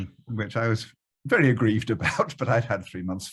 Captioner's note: chuckles